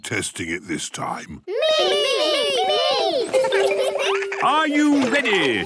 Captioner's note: laughter